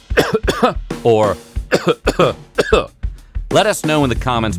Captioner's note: coughs